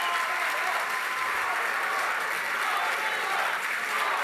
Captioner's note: applause continues